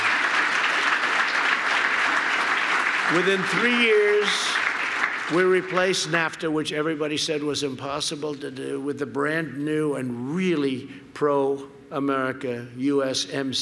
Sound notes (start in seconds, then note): 3.2 applause